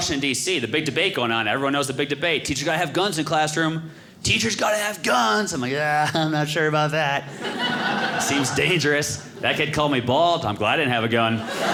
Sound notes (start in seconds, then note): 7.2 audience laughing